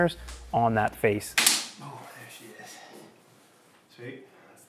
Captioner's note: doors snapping